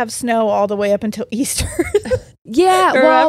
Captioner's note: laughs